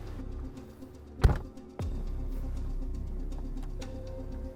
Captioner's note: door bangs